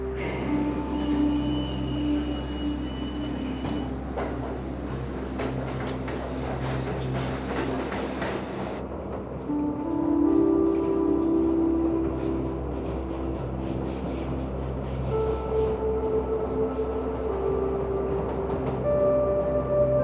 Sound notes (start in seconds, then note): 0.0 car drives; 0.1 turnstile beeps; 3.8 train slows down; 8.9 train axles screech